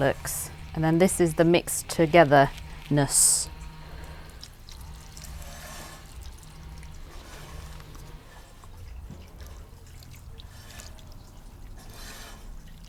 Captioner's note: drizzling